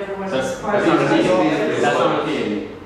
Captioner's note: group talking